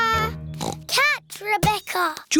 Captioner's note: squeaks; oinks